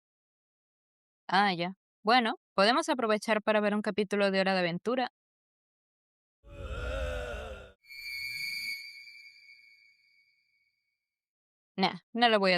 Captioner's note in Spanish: gemido